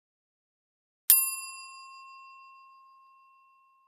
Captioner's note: bell dings